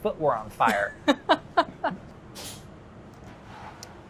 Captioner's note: laughs